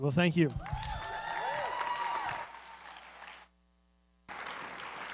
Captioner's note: cheering